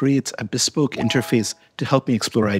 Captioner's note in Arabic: رنين أجراس